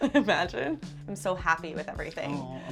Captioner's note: laughs